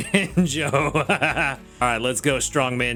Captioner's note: laughs